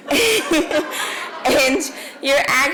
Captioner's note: laughs